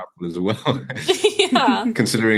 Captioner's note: laughing